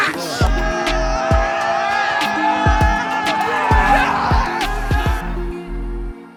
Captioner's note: group cheers